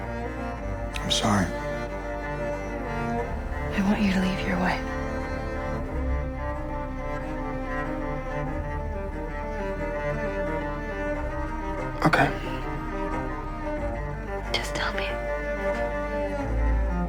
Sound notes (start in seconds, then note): 3.9 voiceover; 14.7 voiceover